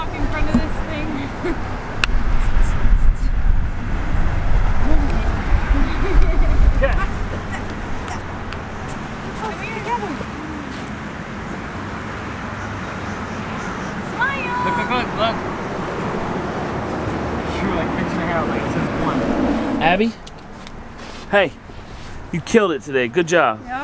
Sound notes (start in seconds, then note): 4.9 laughing; 4.9 laughs; 11.8 traffic noise